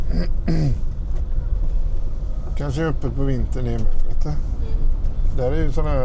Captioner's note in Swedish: harklar sig